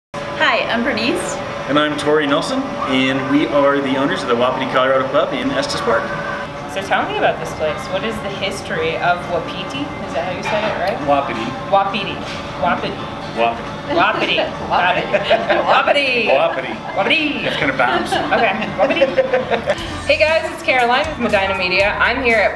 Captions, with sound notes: hi i'm Berenice and I am Tory Nelson and we are the owners of the Wapiti Colorado Pub in Estes Park. So tell me about this place... what is the history of Wa - Pi - Ti ... Is that how you say it? Wapiti.... Wa-Pi-TEE.... Wapiti ...Wa PiTi! (laughter) .... hey guys it's Caroline Medina media I'm here at Wapiti